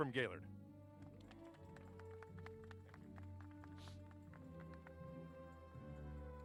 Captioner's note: applause